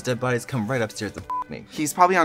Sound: beep

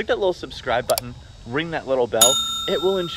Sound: bell dinging

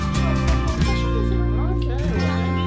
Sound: upbeat guitar music; people murmuring

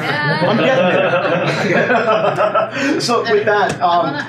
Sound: laughing

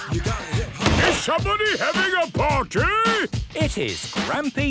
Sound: shouts

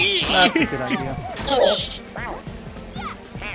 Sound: grunting

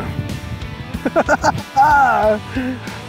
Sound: laughter

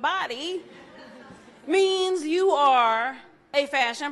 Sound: audience laughs

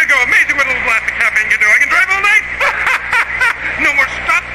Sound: chuckles

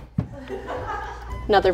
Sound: crew laughing

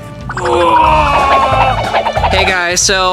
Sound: grunting

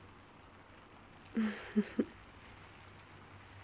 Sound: laughs

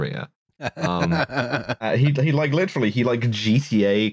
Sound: laughs

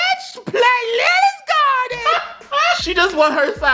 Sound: laughs

